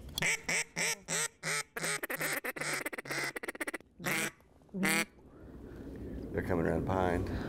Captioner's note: duck calls